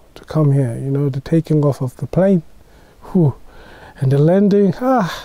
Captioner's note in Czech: vydechne